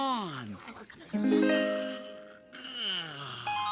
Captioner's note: yawning